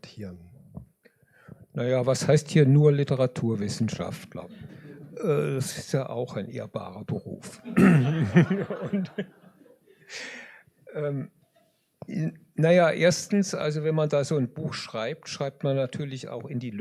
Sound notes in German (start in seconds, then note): 7.5 gelächter; 7.6 husten